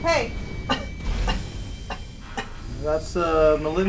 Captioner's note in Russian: наигранный кашель